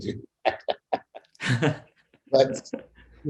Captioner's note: laughing